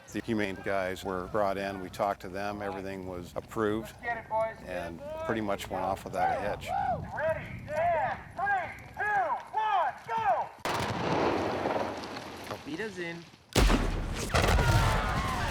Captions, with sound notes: The Humane guys were brought in, we talked to them. Everything was approved, and pretty much went off without a hitch. [man over megaphone] Get ready. And , three, two, one, go! Auf Wiedersehen .